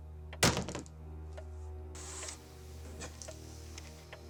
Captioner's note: slamming